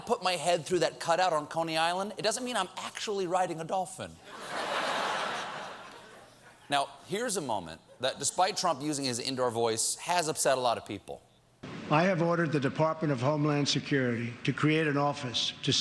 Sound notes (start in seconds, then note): 4.2 laughter